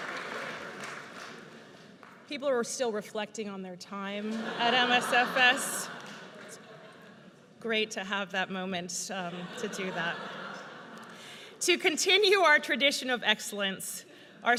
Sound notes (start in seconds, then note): 4.2 audience laughs